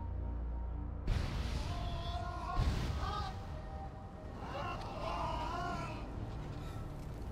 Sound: moans of fire pain

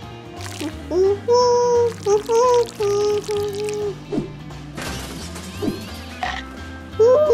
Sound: monkey humming

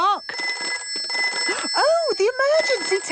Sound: phone ringing

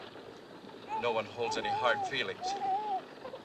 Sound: baby crying

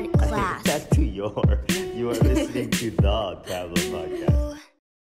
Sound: chuckles

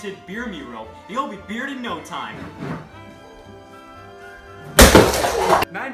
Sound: mechanism thuds twice; non-alcoholic beer crashes, exclaims

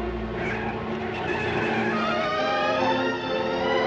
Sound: tires Screeching

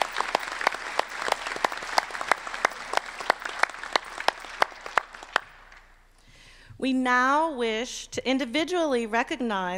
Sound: applause

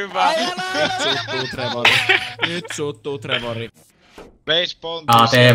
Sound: laughing

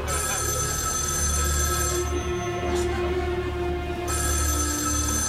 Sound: phone rings; phone continues ringing

